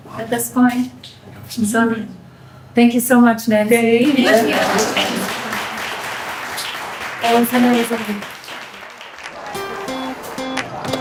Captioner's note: people clapping